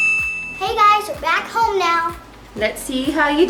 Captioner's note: excited Voice